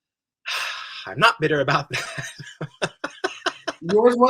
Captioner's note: he laughs